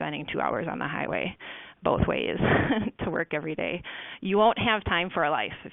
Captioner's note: laughs